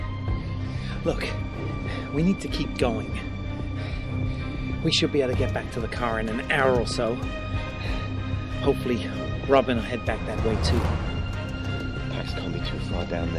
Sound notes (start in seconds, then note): none